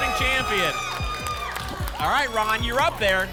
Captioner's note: applause and cheering